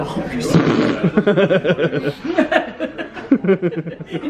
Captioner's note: both laugh